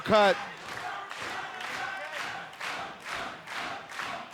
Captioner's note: crowd chanting